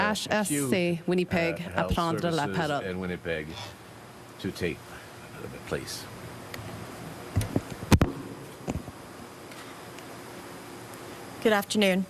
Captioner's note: speaking FRENCH